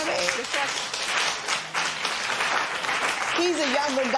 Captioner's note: applause